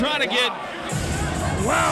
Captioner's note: crowd cheering